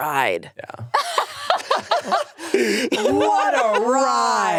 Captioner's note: all laughing